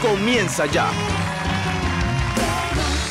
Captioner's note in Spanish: Aplausos